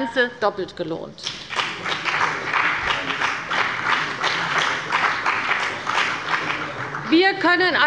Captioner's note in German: Beifall bei der CDU und dem BÜNDNIS 90/DIE GRÜNEN